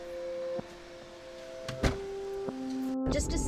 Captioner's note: contemplative music; door shutting